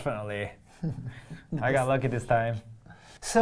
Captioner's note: laughing